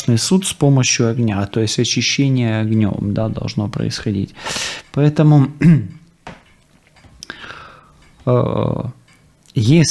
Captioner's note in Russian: откашливается